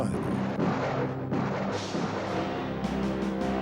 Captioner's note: gunfire popping; ominous music